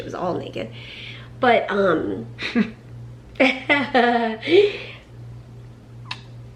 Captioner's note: both laugh